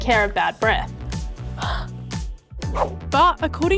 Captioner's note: exhales sharply